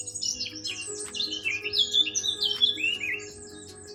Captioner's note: birds singing